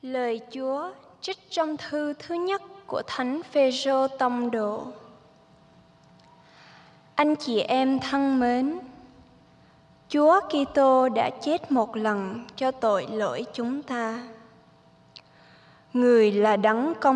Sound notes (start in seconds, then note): 3.2 speaking in vietnamese